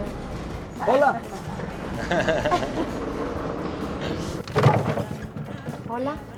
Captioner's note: laughter